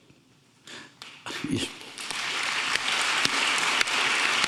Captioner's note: audience applauding